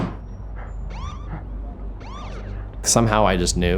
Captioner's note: knocking on table; police sirens wailing